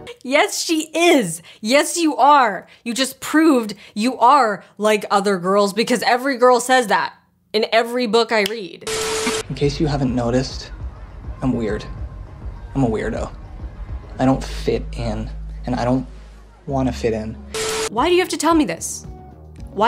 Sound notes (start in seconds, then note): 8.8 static crackling